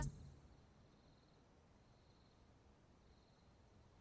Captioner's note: crickets chirping